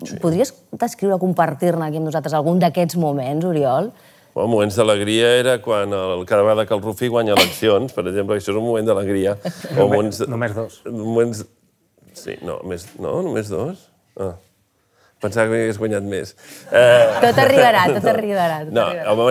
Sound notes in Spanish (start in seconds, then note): 16.7 risas